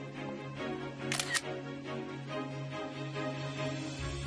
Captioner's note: camera shutter sound